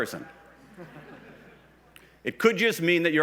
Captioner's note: laughs